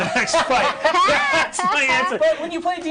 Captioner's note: others laughing